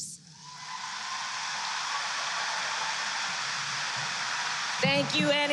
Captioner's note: applause